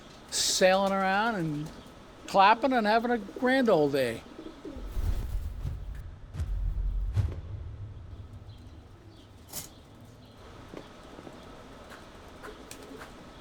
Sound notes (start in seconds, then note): 5.2 birds chirping; 5.2 wings rustling